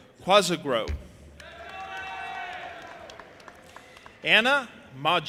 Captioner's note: audience applauding and cheering